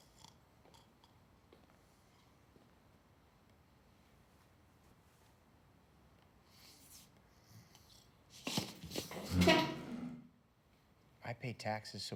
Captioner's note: snoring